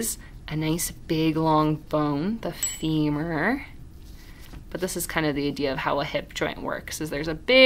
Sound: ding

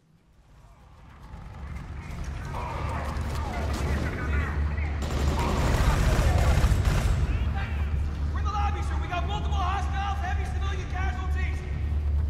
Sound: video game sounds

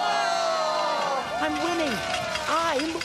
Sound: cheering

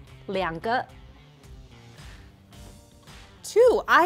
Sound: speaking in mandarin

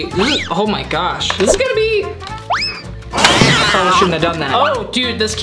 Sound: whistle and cat screeching

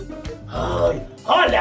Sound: grunting

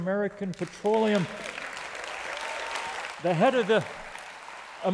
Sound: applause

